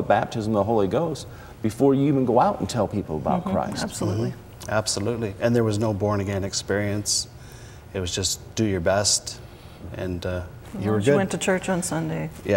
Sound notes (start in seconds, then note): none